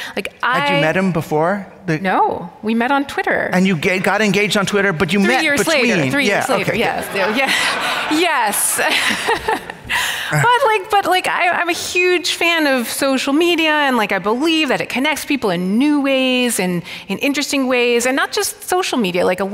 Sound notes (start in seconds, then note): 7.1 audience laughing; 9.1 laughs